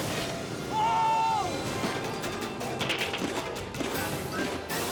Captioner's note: dramatic music; all shouting